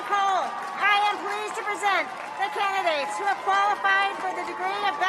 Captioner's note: cheers and applause